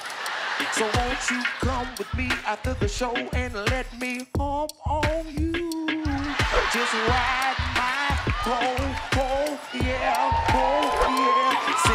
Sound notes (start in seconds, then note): 6.1 crowd laughs